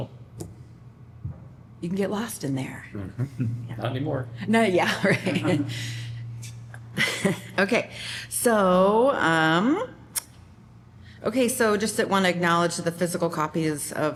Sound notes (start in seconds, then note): 4.8 laughter